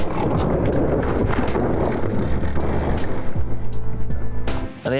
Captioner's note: gravel grinding; slow motion groan